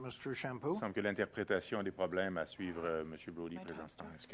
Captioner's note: speaking French